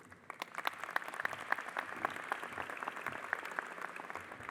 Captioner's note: audience applauding